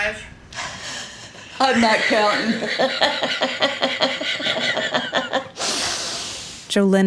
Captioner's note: laughs